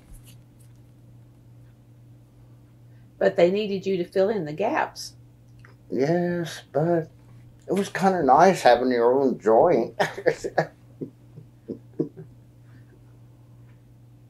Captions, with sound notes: But they needed you to fill in the gaps. Yes, but it was kind of nice having your own joint. (Laughs)